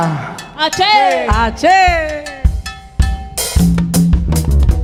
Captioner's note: singers speaking in Spanish; upbeat music